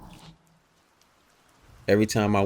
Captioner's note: sound of rain